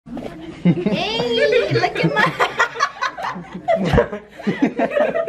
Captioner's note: chatter; laughter